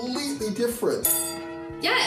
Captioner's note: clang